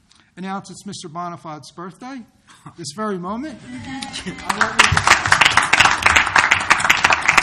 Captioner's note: applause